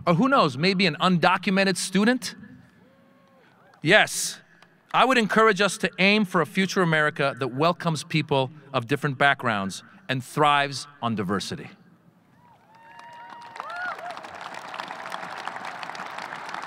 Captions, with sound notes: Or who knows, maybe an undocumented student? Yes, I would encourage us to aim for a future America that welcomes people of different backgrounds, and thrives on diversity. (audience cheering)